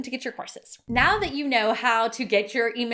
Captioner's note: swishing